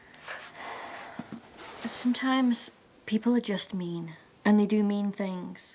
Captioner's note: sighs